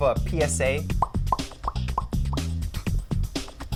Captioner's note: makes popping noises